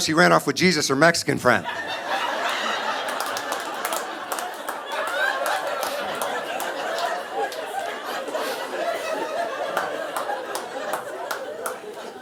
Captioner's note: audience laughing